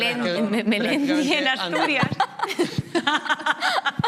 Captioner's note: some laugh